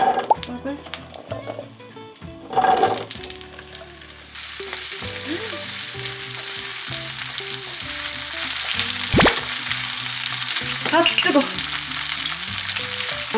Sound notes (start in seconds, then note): 4.3 sizzling